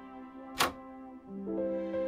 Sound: door opens

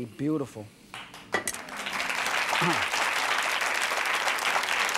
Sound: audience applause

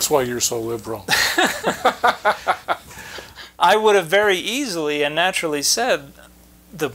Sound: chuckling

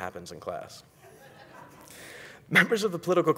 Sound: audience laughing

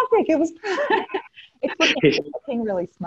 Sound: laughing

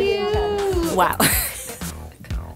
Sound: laughs

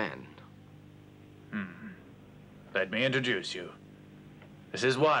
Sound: grumbles

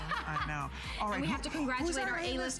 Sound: laughter

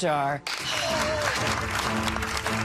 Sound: excited gasps

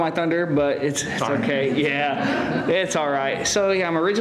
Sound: laughter

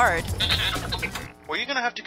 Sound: droid beeps

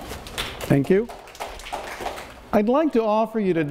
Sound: audience applauds

